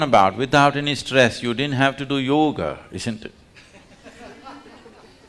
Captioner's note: laughter